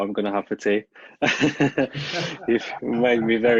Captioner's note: laugh